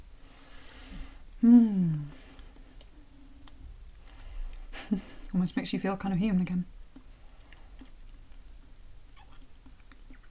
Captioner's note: chuckle